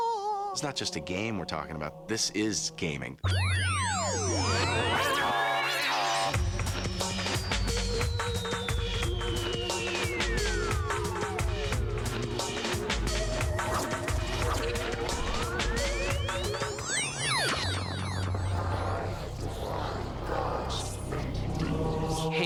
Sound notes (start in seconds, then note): 0.0 vocalizing; 3.3 whirring, clanking; 6.3 techno music playing